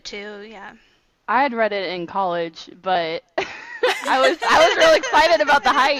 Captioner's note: overlapping with laughter